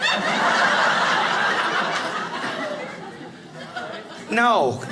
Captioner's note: audience laughing